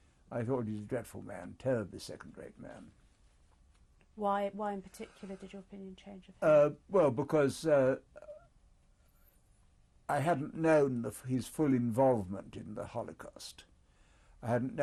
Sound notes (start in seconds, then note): 8.3 pauses for 3 seconds